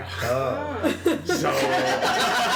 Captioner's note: laughter